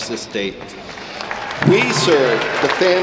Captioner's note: audience applauding